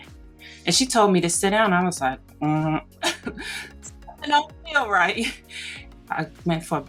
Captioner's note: chuckles